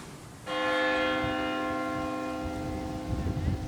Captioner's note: bell rings